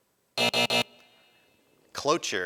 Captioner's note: buzzing